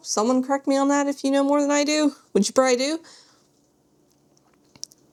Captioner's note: none